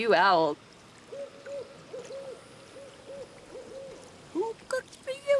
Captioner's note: owl hooting